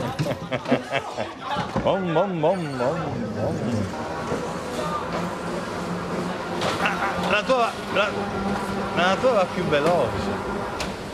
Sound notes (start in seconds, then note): 0.0 laughs; 3.3 imitates racing car's sound